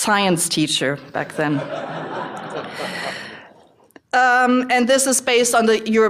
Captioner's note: laughter